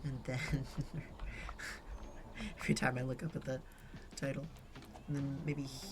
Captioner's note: giggles